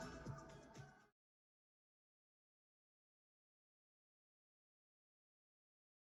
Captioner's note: 음소거